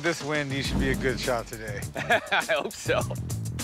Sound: laughing

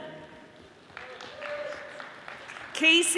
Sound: audience applauding

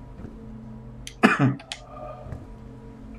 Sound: coughs

